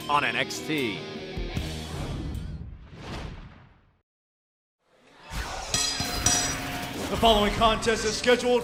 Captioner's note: bell ringing